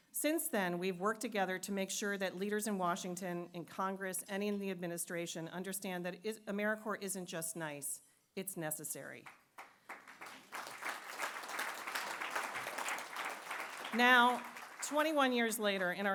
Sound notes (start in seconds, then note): 12.3 applause